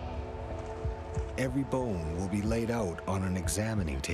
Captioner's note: voiceover